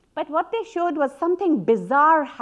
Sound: none

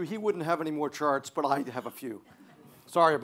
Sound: light audience laughter

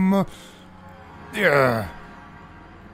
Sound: groans

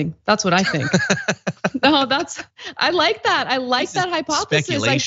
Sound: laugh

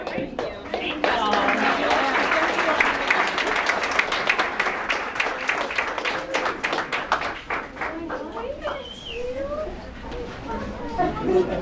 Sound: applause

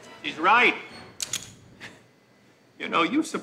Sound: gun clicks

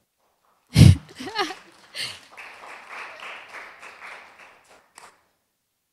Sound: applause

